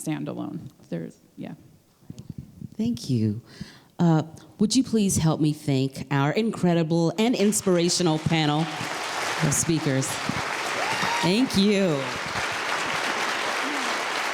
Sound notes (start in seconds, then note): 11.3 applause